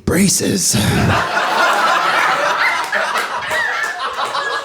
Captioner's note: audience laughing